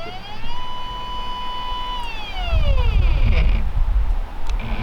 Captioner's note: equipment whirring